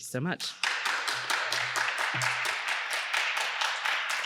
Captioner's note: applause